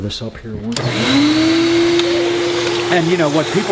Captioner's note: vacuum whirring